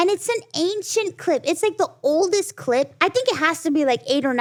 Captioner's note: none